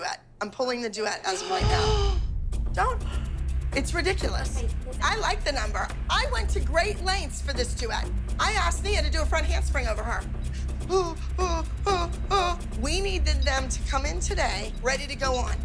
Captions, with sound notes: I'm pulling the duet as of right now. [GASPS] Don't-- [GASPS] It's ridiculous. I like the number. I went to great lengths for this duet. I asked Nia to do a front handspring over her. (MOCKING) Oh, oh, oh, oh. We needed them to come in today ready to go on.